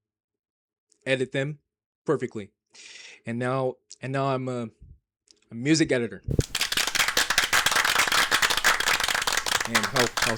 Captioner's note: applauding